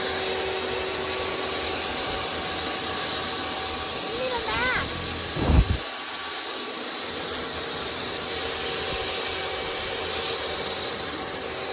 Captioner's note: very loud saw sounds